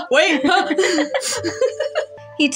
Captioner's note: laugh